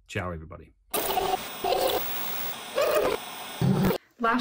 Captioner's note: eerie sound